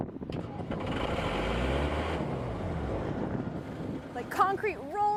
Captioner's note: truck rumbling